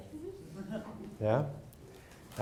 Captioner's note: crowd laugh